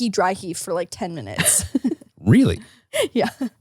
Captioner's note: laughs